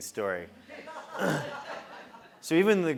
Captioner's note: laugh